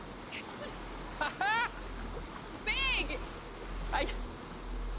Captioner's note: Ted chuckling